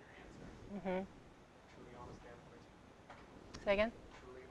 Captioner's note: student murmurs